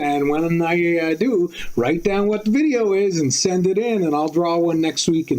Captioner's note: none